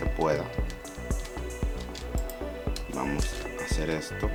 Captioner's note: typing